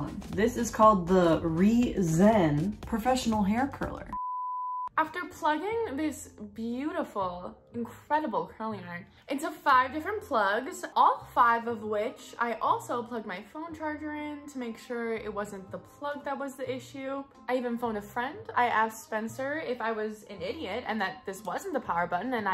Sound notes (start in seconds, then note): 4.1 beeping